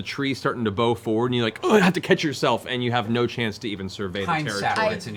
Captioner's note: grunt